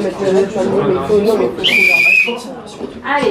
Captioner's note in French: Coup de sifflet